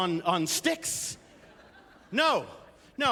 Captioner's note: laughter